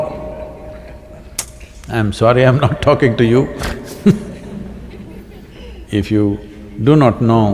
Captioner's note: laughs